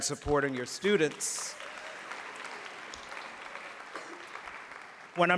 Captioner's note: applause